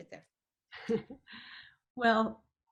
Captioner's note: chuckles